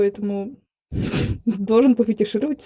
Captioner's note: giggle